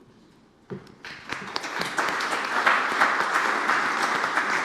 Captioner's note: applause